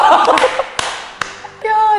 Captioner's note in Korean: 짝짝짝